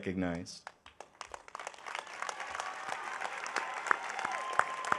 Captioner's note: audience applauding